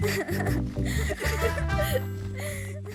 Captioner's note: giggling